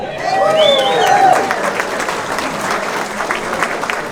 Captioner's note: cheering, applause